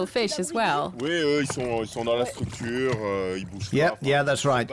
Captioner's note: speaking French